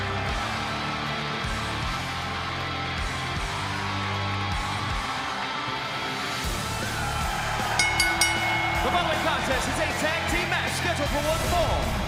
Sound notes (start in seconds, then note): 7.7 bell ringing